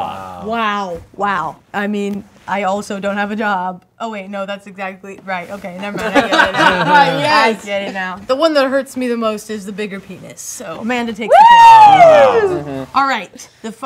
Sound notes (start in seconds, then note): 5.9 group laughing; 6.1 laughs; 11.3 exclaiming